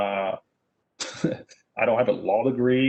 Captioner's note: chuckles